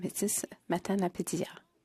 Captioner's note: speaking FRENCH